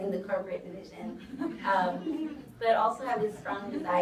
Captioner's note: audience chuckles